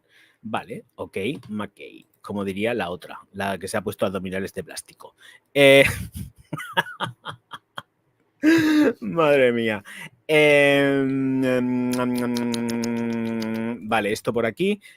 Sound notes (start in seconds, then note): 9.6 laughs